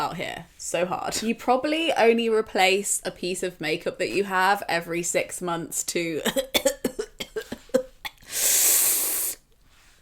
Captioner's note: coughs